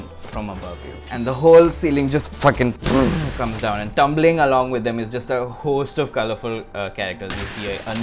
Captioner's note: boom